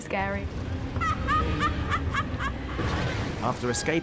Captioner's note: laughing